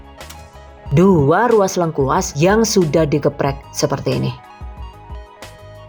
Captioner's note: crushed